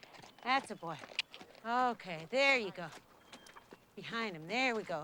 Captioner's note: clicks tongue